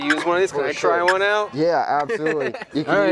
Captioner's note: turkey sounds